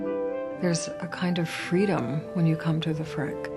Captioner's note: gentle music; voiceover